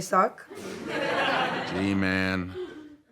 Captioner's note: audience laughs